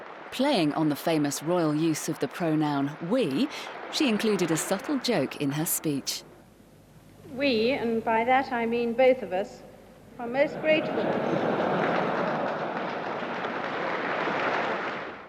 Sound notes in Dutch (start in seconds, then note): 10.5 publiek lacht